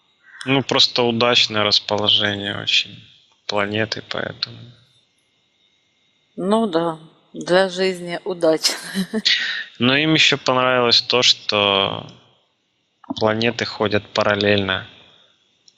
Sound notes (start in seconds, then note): 9.2 laughing